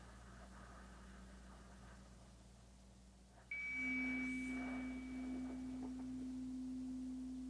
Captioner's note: slow breathing continues; chimes ringing continues